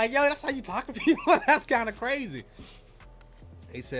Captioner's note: laughs